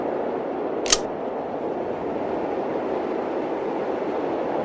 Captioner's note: gun clicks